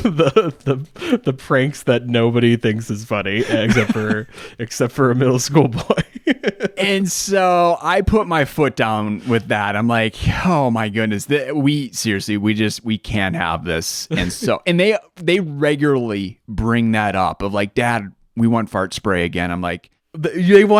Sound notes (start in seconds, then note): 6.7 laughs